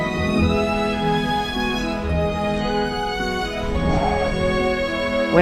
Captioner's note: whoosh!